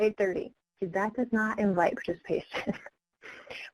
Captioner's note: laughs